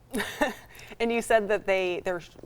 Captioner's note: chuckles